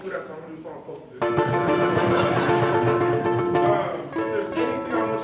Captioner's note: playing ukulele; laughter